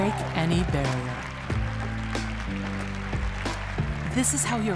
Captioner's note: audience applauding